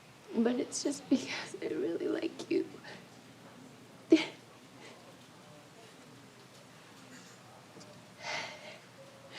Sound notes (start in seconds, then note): 4.1 Betsy laughs